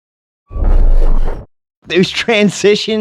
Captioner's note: whooshing